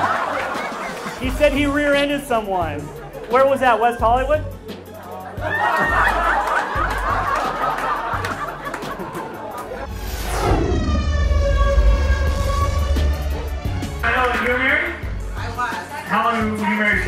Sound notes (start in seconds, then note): 4.9 laughs